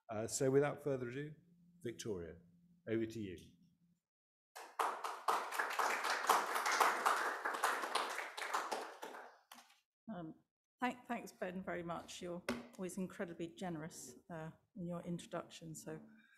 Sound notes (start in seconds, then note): 4.6 audience applauding